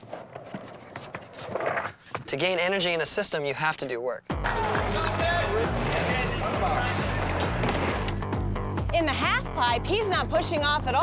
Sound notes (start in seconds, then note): 4.4 cheering